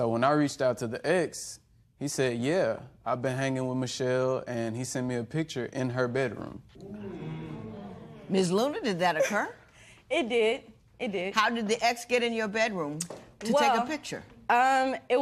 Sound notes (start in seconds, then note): 6.8 spectators murmur